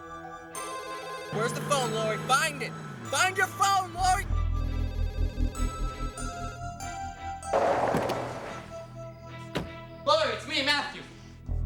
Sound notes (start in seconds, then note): 7.5 car Door Opens, Closes